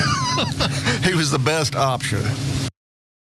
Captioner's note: laugh